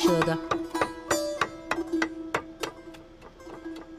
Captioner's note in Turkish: Çekiç sesi